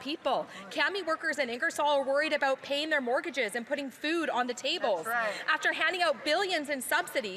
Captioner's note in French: voix de l'interprète